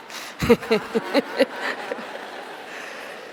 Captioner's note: laughing